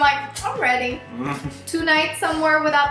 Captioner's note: laughs